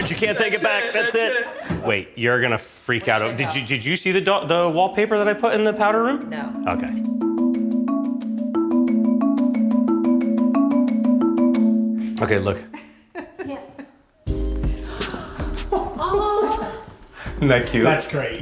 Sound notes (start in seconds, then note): 8.0 soft music; 12.7 laughs; 14.2 soft music